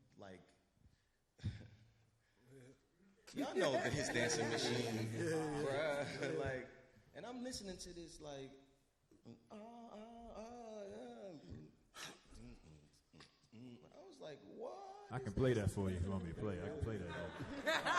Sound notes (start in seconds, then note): 5.1 all laugh; 11.3 hums